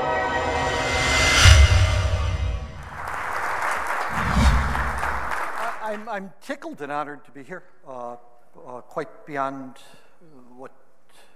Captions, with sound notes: (audience applauding) - I'm tickled and honored to be here. Quite beyond what ...